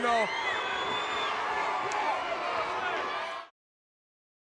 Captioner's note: crowd booing